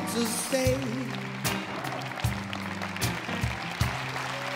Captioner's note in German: Applaus, Jubel